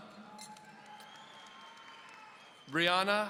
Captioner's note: audience cheering